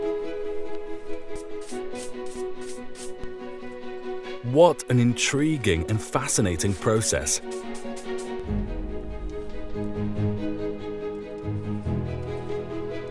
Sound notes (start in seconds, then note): 1.2 brush brushing; 8.0 brush brushing; 8.0 lively music